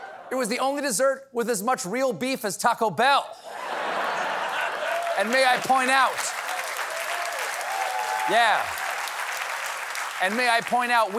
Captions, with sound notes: IT WAS THE ONLY DESSERT WITH AS MUCH REAL BEEF AS TACO BELL! ( LAUGHTER ) ( APPLAUSE ) AND MAY I POINT OUT-- ( CHEERS AND APPLAUSE ) YEAH. AND MAY I POINT OUT, WE LEARNED THIS SHOCKING NEWS ON A TACO